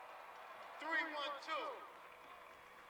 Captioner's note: cheers